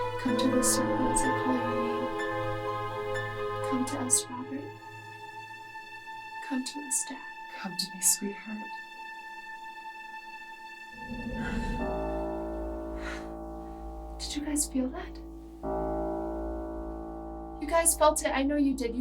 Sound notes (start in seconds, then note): 10.9 muffled wind blows; 11.0 all gasp